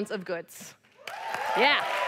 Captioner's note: applause